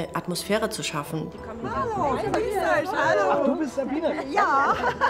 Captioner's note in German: lacht